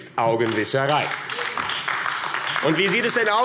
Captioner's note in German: Beifall AfD